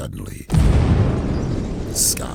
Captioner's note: explosion booming